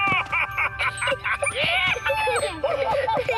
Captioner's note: excited laughter